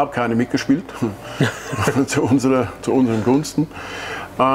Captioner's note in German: lachen